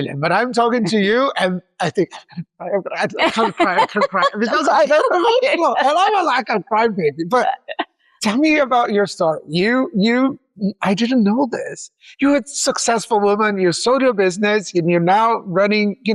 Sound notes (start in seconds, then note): 5.7 laughs